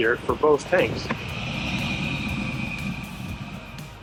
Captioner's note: tanks rumbling